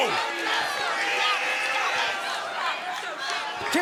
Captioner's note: crowd cheering